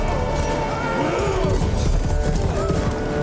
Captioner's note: none